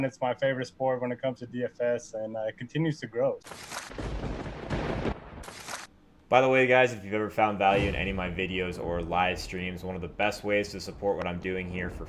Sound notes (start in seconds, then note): 3.6 lightening; 3.9 thunder